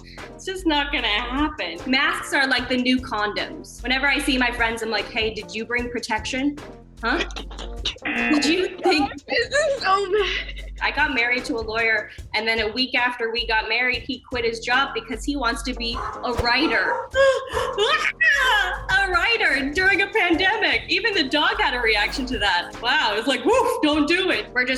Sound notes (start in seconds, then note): 7.1 snickers; 8.0 buzzer; 15.9 dog barks